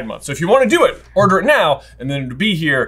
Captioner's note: none